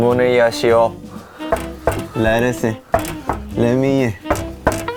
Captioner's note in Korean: 똑똑